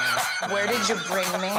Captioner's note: laughter